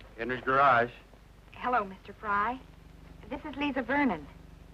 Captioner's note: none